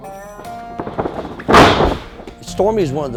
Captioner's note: grunting; rustling sound; thud